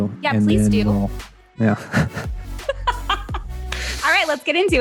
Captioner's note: laughter